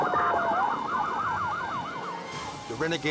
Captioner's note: sirens wailing